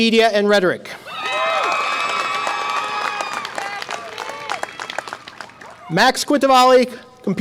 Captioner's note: audience applause and cheer